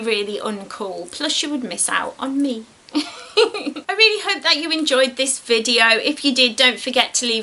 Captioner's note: giggles